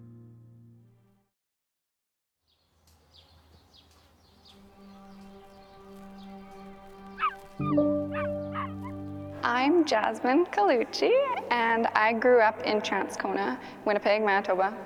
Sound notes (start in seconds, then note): 2.5 birds chirping; 8.0 barking